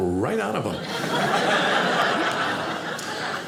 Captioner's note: audience laughing